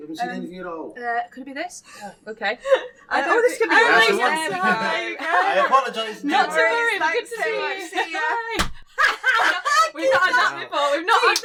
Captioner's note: screams of laughter